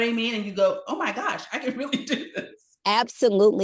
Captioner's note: chuckles